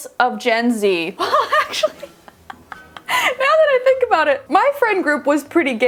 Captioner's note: laughing